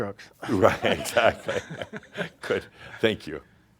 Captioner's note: they chuckle